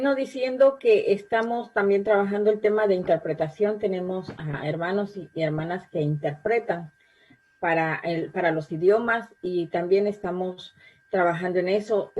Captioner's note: spanish